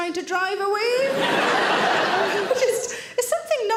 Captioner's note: audience laughing